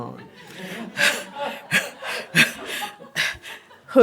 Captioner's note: laughter